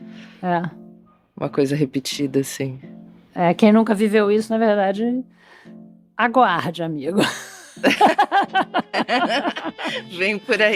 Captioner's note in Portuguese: risadas